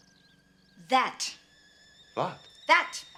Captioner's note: kettle whistling